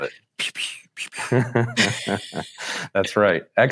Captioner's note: both chuckle